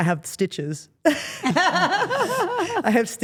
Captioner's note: Steph laughs